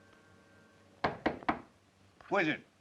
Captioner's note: door knocks